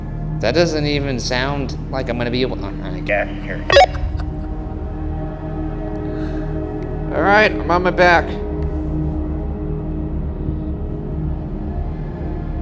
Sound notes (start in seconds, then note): 3.7 laughing; 9.2 gentle eerie music